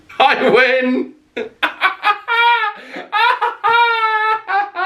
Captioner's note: laughing